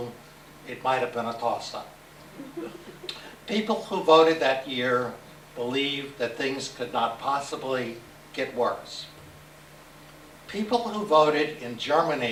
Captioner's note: laughs